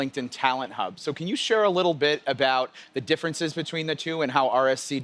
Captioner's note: none